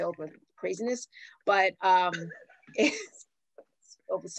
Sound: laughs

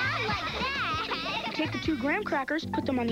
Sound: children's laughter

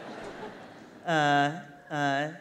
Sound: laughter

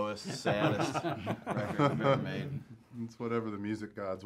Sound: all laugh

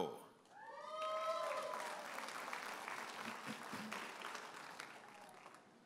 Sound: audience applauding and cheering

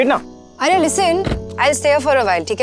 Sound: car door closes; car door opens

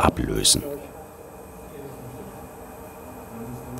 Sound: machine whirring

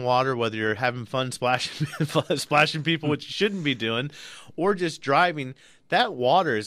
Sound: both laugh

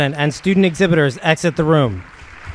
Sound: applause

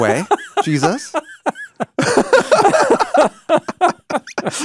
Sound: both laughing

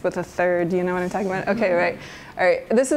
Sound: murmured agreement

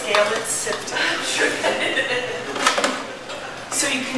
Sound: laughing

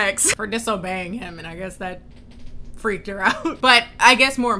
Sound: laughs

